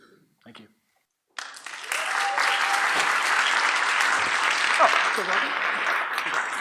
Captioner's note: audience applauds